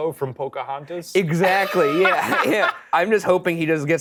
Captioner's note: laughing